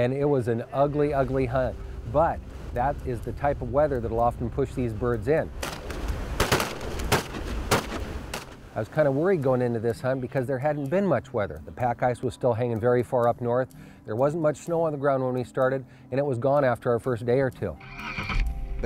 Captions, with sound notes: AND IT WAS AN UGLY, UGLY HUNT. BUT THAT IS THE TYPE OF WEATHER THAT'LL OFTEN PUSH THESE BIRDS IN. [GUNSHOTS] I WAS KIND OF WORRIED GOING INTO THIS HUNT, BECAUSE THERE HADN'T BEEN MUCH WEATHER. THE PACK ICE WAS STILL HANGING VERY FAR UP NORTH, THERE WASN'T MUCH SNOW ON THE GROUND WHEN WE STARTED, AND IT WAS GONE AFTER OUR FIRST DAY OR TWO.